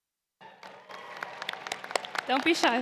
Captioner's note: applause